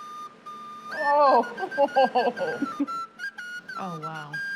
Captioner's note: laughs